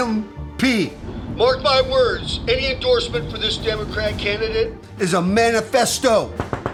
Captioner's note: radio